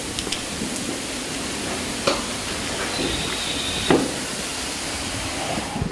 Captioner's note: water pattering